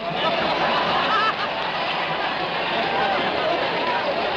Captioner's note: audience laughing